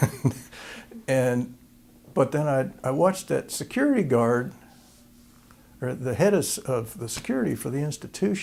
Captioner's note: laughter